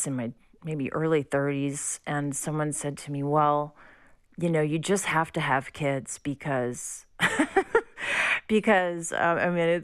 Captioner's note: laughter